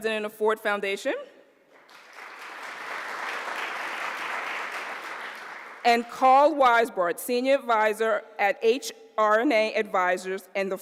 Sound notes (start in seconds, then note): 1.7 applause